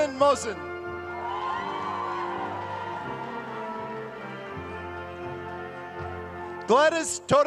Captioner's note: applause